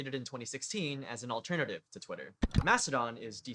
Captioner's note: click